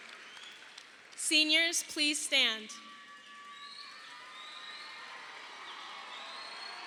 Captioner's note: audience applauding